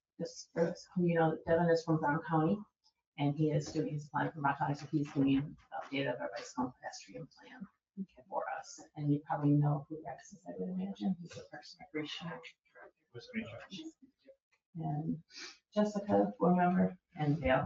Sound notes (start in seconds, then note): 11.1 people chattering indistinctly